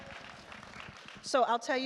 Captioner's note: attendees applaud